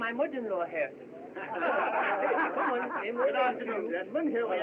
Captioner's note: all Laughing